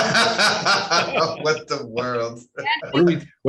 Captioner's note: laughing heartily